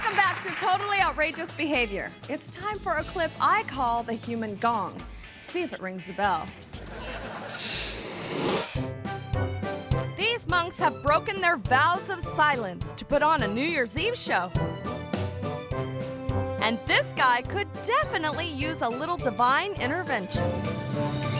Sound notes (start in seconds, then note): 6.7 audience laughing; 7.4 playful music; 7.6 screen whooshes